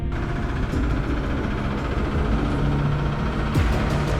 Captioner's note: slow music continues; elevator rattles